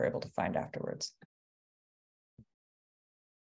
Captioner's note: pause